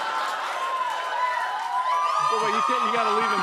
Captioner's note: laughter; cheering